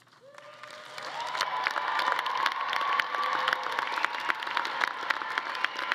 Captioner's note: all clapping; audience cheering